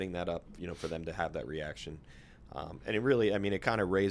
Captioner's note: snorts